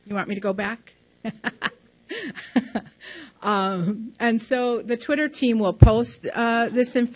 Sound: laughs loudly

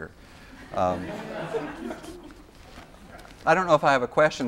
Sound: laughter

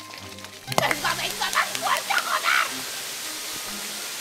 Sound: Antonietta, clapping

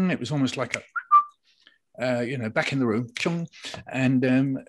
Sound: snaps fingers

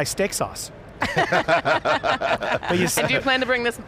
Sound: panelists laughing

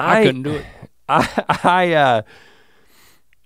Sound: Rhett laughs

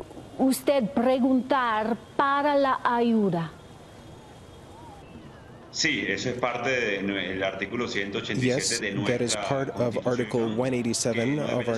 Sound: speaking spanish

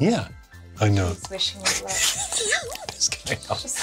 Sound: laughs

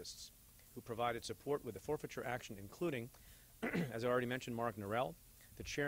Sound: clears throat

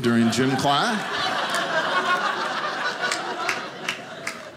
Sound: audience laughing

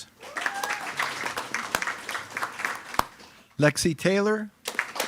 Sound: attendees clapping

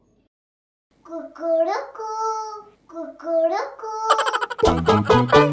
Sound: chicken sound

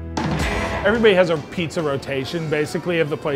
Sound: voiceover

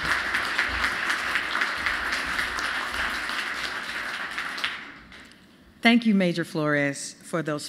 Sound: applause

